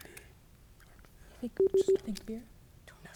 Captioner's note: team whispering; buzzer beeping